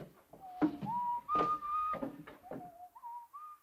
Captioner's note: Harry whistles